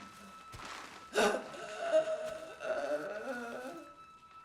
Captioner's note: Joan gasping